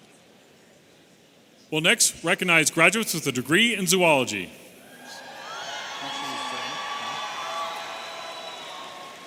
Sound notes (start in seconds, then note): 4.9 audience cheering